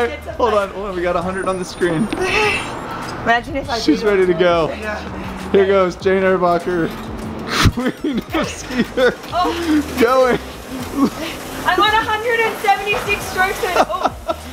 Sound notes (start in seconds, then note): 7.4 laughing